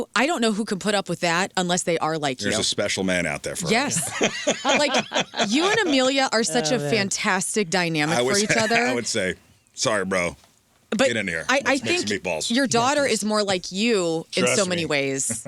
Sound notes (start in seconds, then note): 3.5 laughing